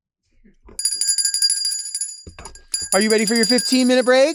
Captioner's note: bell ringing